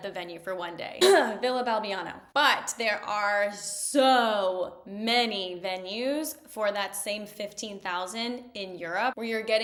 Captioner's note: ahem